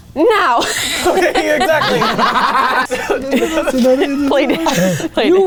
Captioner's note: everyone laughing